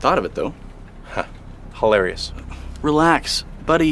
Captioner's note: laughs